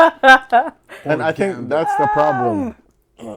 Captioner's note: laughter